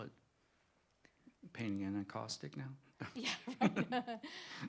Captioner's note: laughter